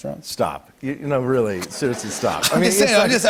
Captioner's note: laughter